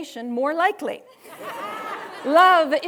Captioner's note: students laughing